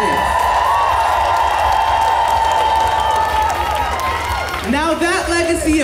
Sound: audience cheers

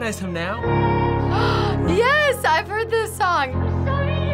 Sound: gasps

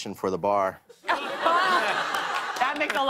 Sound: laughter

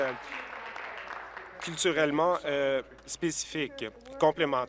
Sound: applause

